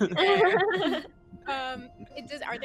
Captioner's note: Cornette laughs; laughs